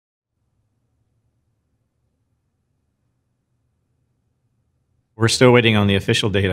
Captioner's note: silence